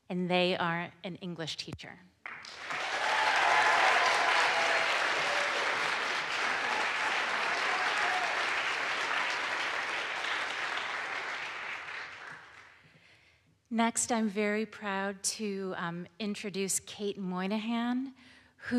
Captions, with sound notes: and they are an English teacher. (audience applauds) (audience cheers) Next, I'm very proud to introduce Kate Moynihan who has,